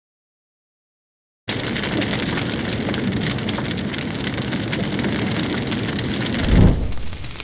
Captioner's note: fire sound